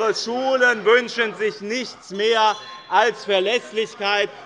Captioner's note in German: Unruhe – Glockenzeichen des Präsidenten